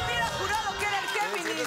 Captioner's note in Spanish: Exclamaciones